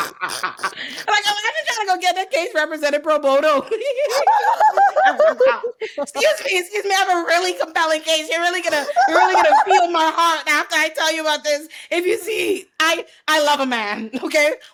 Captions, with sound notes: I was just trying to go get that case represented, pro bono. (laughs) Excuse me, excuse me, I have a really compelling case. You're really gonna feel my heart after I tell you about this. If you see, I love a man, okay?